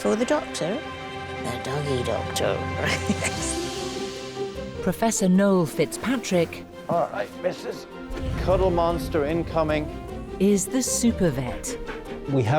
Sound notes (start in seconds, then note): 2.8 laughs